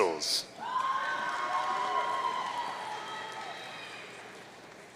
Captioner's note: audience cheering